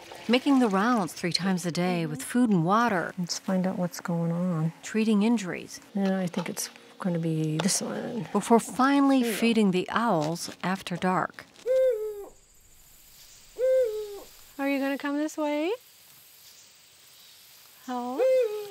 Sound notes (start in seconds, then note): 13.3 owl hooting